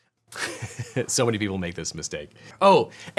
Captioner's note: laughs